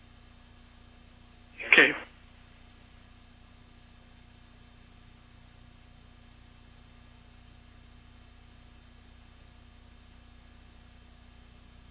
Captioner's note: long pause